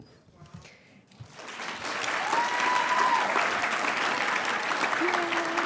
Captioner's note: audience cheering and applauding